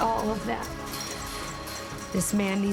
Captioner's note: clinking